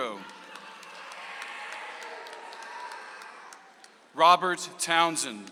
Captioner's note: audience applauds